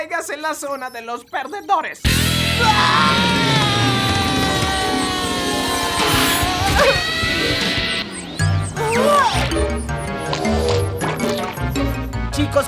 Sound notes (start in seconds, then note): 2.1 screaming; 6.8 grunting; 8.7 gasping